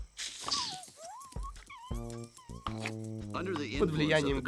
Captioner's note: whimpering